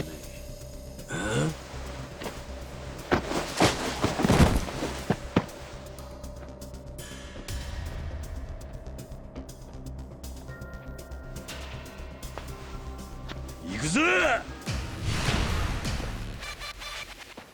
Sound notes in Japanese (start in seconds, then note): 13.7 うめき声